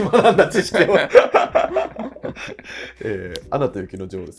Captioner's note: laughing